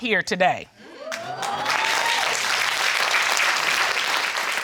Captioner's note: audience cheering, applauding